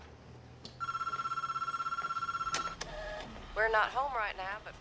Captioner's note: telephone ringing